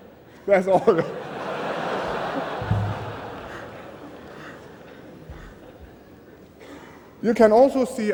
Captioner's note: laughter